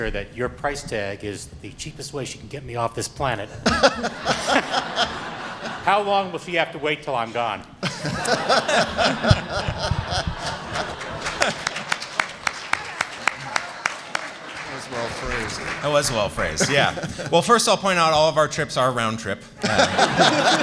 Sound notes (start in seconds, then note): 3.6 laughter; 7.8 laughter; 11.0 applause